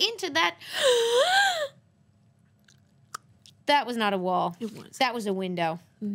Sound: gasps

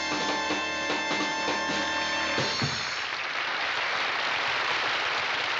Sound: applause

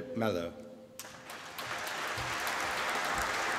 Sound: applause

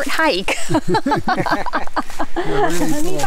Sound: all laugh

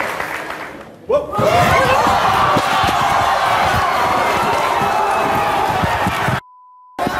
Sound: audience screams and shouts

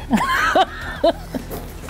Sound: laughter

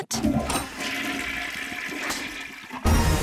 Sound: toilet flushing; epic dramatic music

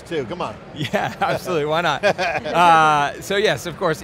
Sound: group laughing

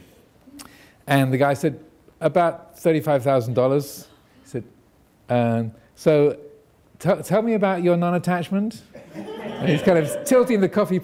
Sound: audience laughing

